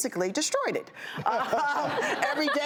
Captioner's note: laughs